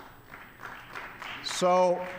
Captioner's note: applause